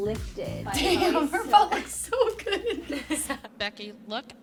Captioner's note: laughing